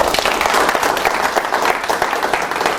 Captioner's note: applause